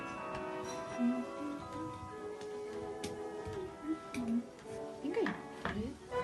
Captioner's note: my sister humming in the background